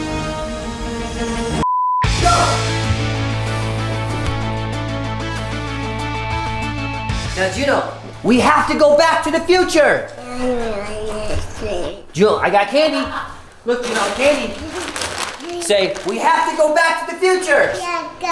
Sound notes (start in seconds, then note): 2.7 fast electronic music; 10.4 mumbling